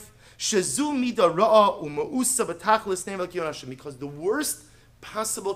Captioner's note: Hebrew